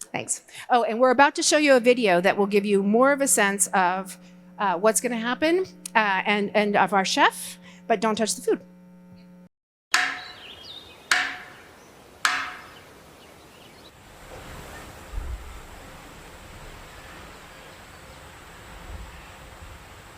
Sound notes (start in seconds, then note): 10.0 wood snapping; 10.0 birds chirping